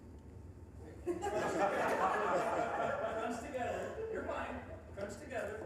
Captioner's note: audience laughing